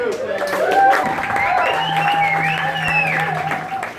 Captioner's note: applause